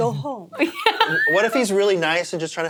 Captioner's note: laughs